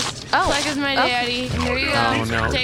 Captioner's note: slurring